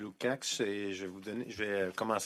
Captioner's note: speaking French